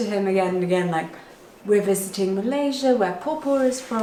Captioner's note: speaks a foreign language